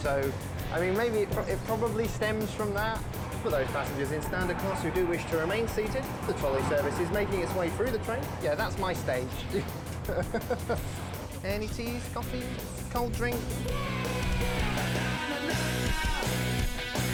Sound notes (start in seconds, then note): 10.7 laughs; 13.9 upbeat rock music